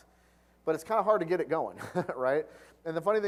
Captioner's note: laugh